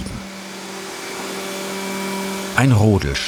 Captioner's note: whirring